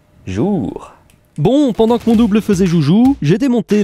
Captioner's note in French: voix off